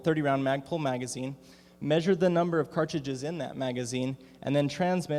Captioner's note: none